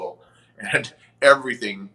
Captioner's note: chuckles